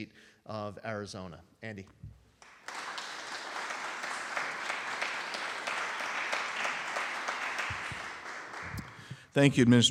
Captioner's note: applause